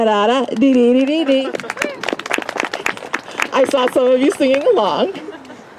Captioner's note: applause